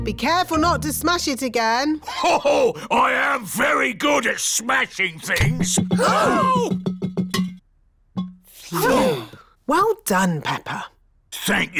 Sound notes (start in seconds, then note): 6.4 all gasp